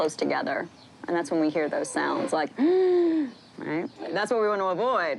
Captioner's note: wheezes